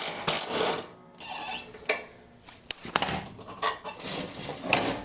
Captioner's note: engine parts clattering